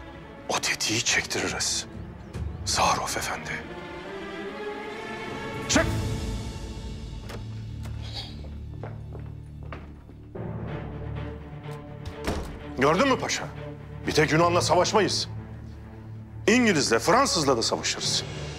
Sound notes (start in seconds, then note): 6.9 sound of door opening; 8.7 footsteps; 11.7 door closing sound